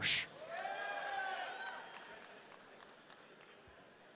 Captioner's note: audience cheering